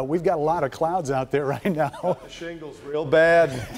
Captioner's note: laughter